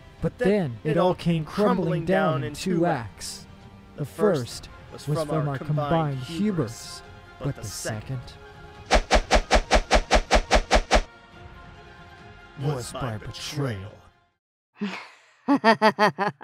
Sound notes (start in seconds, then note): 8.9 sword swings as the wind ceases; 15.6 Dorothea chuckles in sinister glee